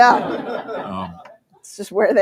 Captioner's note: laughter